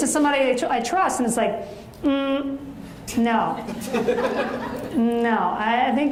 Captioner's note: audience laughs